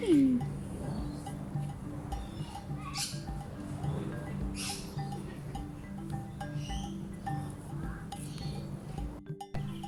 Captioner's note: overhead plane engines, birds chirping, people chattering; birds chirping, people chattering